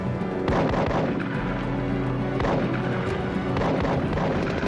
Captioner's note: gun fires